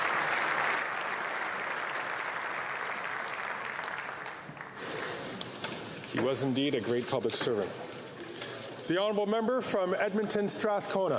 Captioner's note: applause